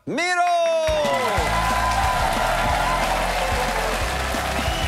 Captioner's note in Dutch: applaus en gejuich